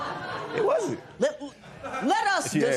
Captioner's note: laughter